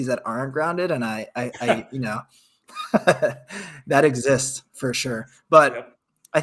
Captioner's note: laughs